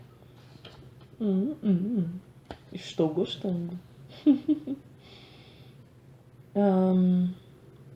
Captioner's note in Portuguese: risadas